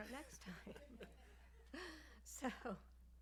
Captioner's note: laughter